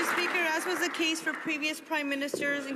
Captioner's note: some Applause